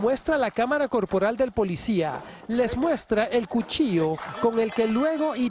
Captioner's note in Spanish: habla en ingés